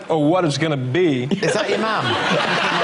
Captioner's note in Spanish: Risas